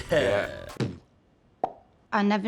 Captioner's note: Jason Sudeikis beatboxing